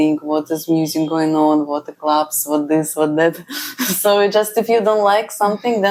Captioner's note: laughs